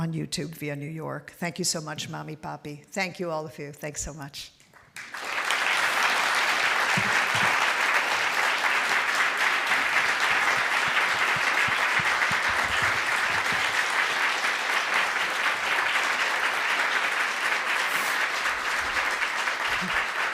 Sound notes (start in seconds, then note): 4.6 applause